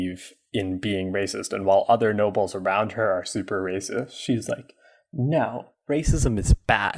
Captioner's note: mocking